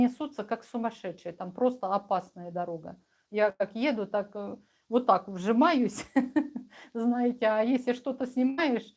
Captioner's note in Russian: смех